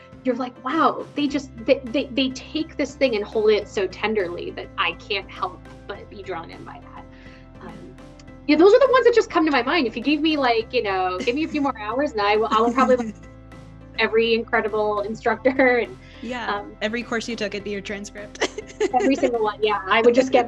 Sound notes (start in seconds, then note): 18.4 laughs